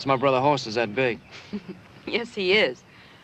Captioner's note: laughs